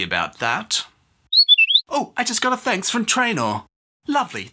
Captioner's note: whistle blows